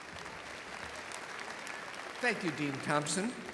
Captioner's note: audience applauding and cheering